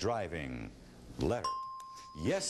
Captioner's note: ding